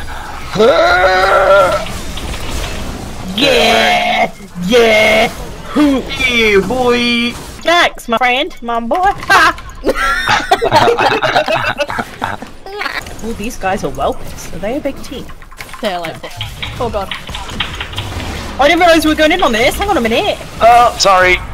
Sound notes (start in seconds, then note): 9.8 hahhaha